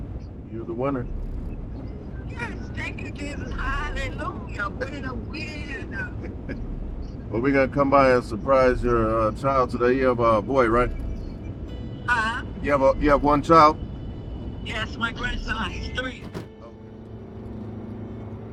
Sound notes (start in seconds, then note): 17.1 car accelerating